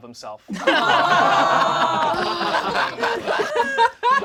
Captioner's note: all laugh